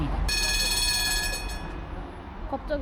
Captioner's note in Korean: 엄청난 쿵 소리와 함께 멈춰버린 트램